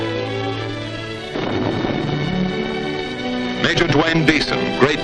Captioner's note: booming